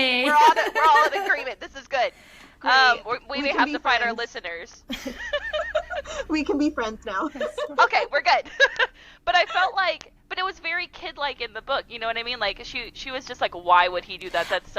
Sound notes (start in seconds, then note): 0.2 laughter; 4.8 laughter